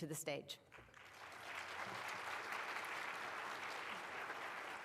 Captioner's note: audience clapping